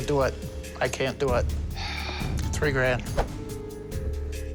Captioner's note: sighs